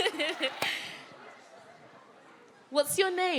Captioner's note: audience members calling out; laughs